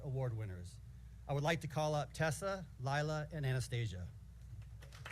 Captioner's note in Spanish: aplausos